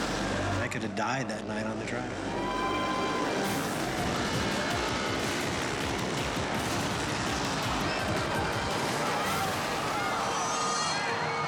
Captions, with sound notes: I could have died that night on the drive. (bikes rumbling) (dramatic music) (bikes crashing) (dramatic music)